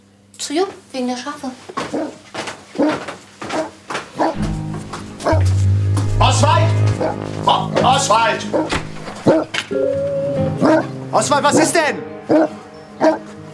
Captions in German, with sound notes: Zu Jupp. Wegen der Schafe. (Anhaltendes Bellen von draußen) Oswald! O-Oswald! (Schelmische Musik) Oswald, was ist denn?